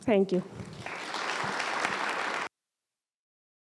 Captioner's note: applause